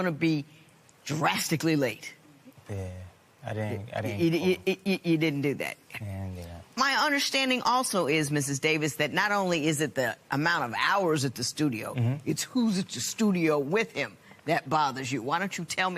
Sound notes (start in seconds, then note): none